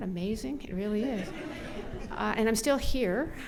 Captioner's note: audience laughs